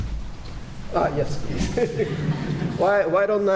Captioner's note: polite laughter